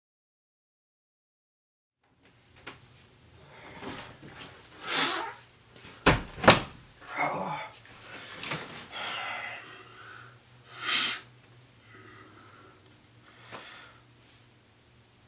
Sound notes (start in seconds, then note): 6.0 door opens and closes; 7.0 sighs; 10.7 sniffs